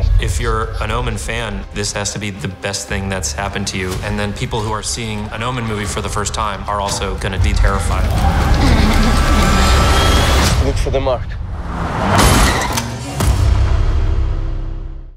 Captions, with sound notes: If you're an Omen fan, this has to be the best thing that's happened to you. And then people who are seeing an Omen movie for the first time are also gonna be terrified. [Grunts softly] Look for the mark. [Cars crash]